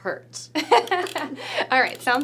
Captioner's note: laughing